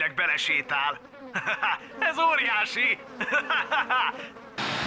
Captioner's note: laughs